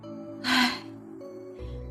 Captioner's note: sigh